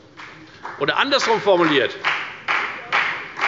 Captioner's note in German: Beifall bei der FDP